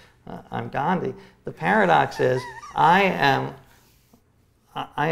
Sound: laughs

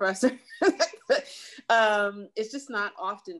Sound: laughs

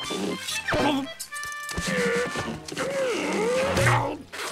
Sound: grunting

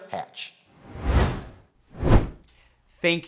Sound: whooshes

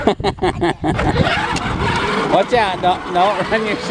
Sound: laughs

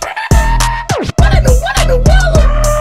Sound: record Stop

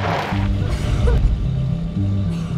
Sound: coughing

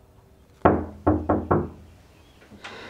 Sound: door knock

